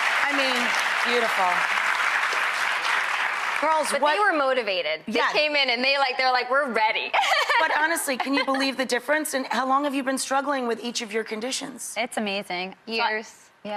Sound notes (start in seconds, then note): 8.1 laughing